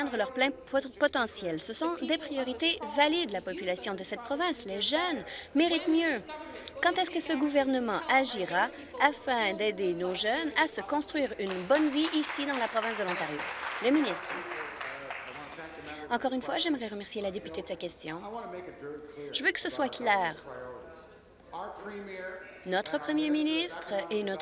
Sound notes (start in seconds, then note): 15.2 applause